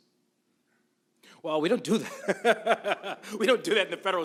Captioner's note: laughs